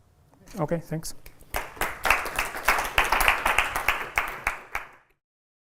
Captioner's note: applause